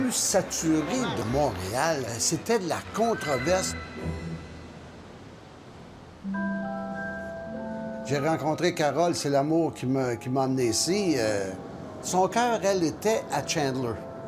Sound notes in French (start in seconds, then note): 3.5 son des vagues